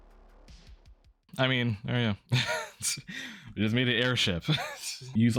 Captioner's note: laughing